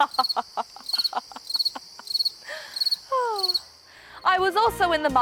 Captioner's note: laughs; crickets chirp